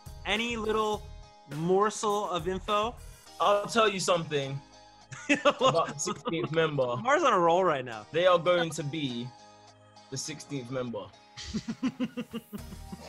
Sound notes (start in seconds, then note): 5.1 laughs; 11.4 laughs